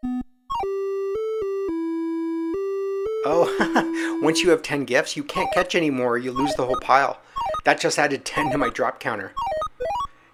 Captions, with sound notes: Oh! [laughs] Once you have 10 gifts, you can’t catch any more or you lose the whole pile! That just added 10 to my drop counter.